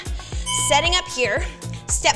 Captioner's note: bell chimes